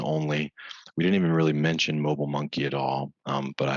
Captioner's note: chuckling